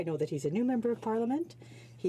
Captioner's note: speaking French